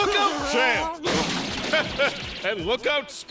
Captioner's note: crash